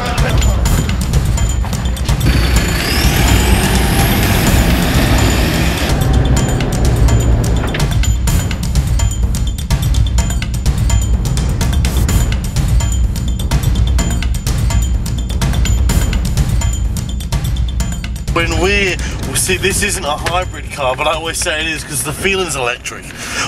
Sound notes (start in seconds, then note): 2.0 car engine accelerates; 5.7 dramatic music continues